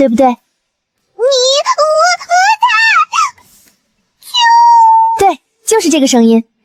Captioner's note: chirps excitedly